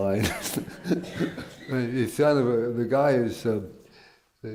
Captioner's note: laughs